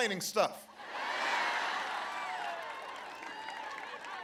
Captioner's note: laughter and applause